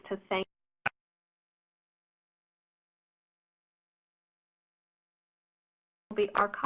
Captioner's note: audio cuts out